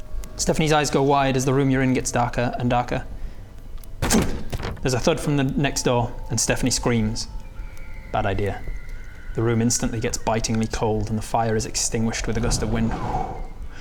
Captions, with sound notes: Stefanie's eyes go wide as the room you're in gets darker and darker *BANG* there's a thud from the next door and Stefanie screams bad idea the room instantly gets bitingly cold and the fire is extinguished with a gust of wind